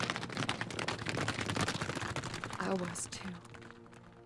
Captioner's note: hooves clomping